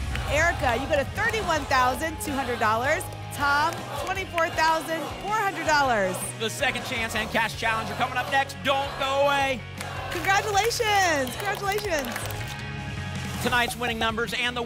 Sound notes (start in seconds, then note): 1.9 audience chanting "double!"; 12.4 tickets shuffling